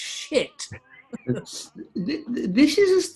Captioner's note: giggling